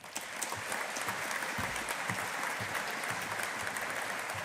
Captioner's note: audience applauding